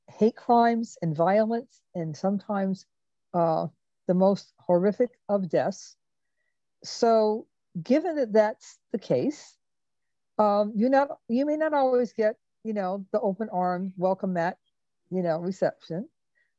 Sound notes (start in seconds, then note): none